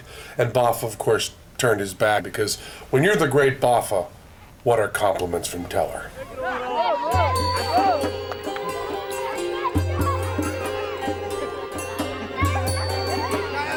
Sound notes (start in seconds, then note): 5.9 villagers chattering; 7.1 egyptian music